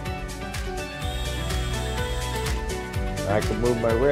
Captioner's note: drill whirring